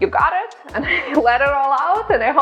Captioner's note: laughing